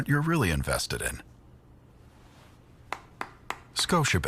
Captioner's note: silence, then clapping